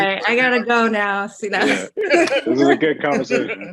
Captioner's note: laughs